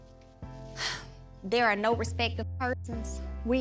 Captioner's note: sighs